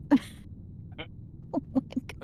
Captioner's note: laughs